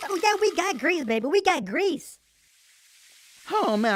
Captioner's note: grease sizzle and pop